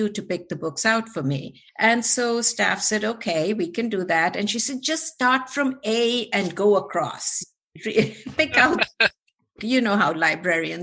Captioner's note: laughter